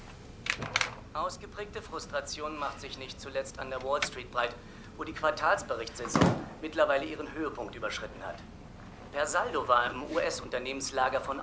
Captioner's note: TV: Financial news on falling stock prices